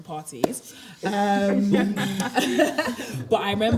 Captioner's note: everyone laughs